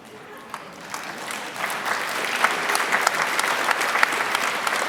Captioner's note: audience applauds